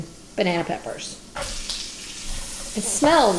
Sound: sizzling

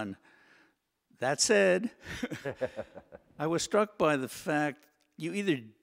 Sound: laughter

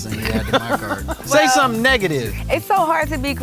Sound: laugh

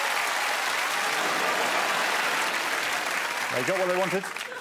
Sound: crowd applauds and cheers

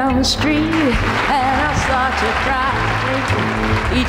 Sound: audience applauds

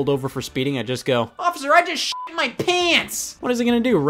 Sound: beep

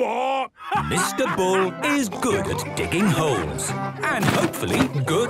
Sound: laughing

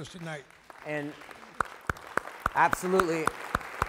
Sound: applause

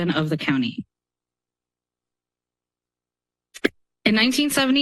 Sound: pause

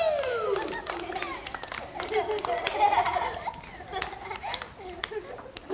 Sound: kids clapping and laughing

